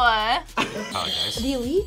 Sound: laughs; buzzer rings

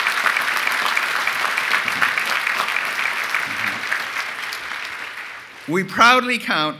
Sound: applause

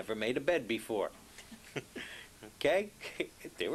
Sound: laughs

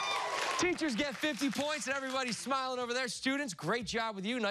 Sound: cheers and applause

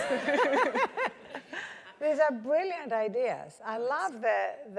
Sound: laugh

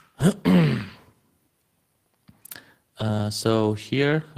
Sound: clears throat

